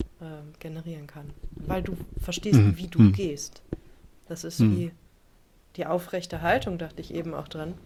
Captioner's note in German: räuspern